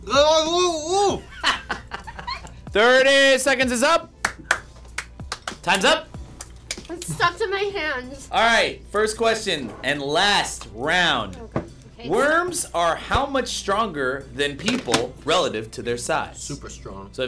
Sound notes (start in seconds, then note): 4.2 claps